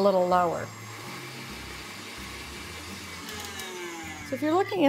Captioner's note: mixer whirring